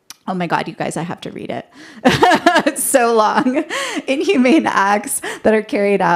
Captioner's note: laughter